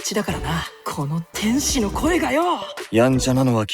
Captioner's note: voice of an angel!!